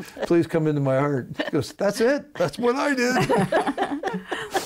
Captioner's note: laughing